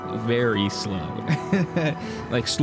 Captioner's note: laughs